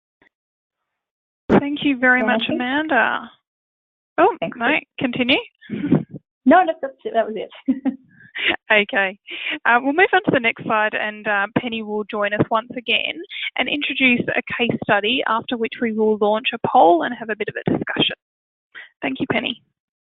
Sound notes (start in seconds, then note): 7.5 laughs